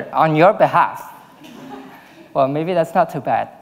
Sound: audience laughing

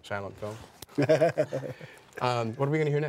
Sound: laughter

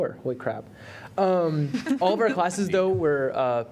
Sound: laughter

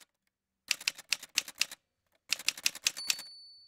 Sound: typewriter sounds

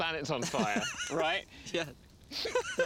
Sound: laughing

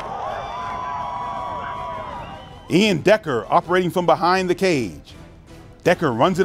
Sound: cheers

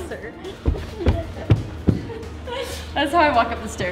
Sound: footsteps stomping

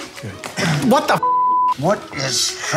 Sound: beep

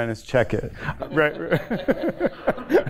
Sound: laughter

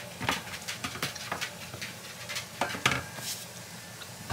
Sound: more Chewing

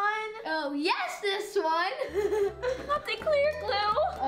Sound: laughs

